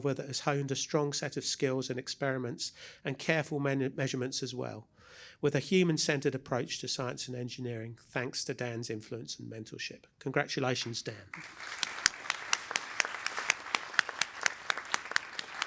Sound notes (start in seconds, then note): 11.3 applause